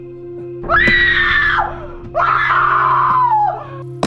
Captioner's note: woman screams